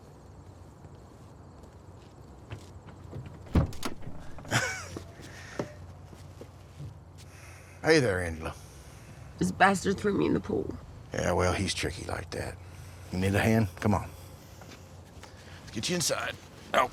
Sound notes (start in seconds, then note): 3.4 door clicks